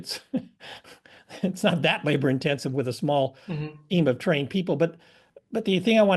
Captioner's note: laugh